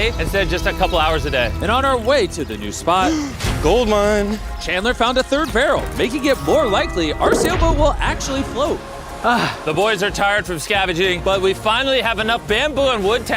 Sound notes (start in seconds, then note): 3.0 gasps; 9.2 sighs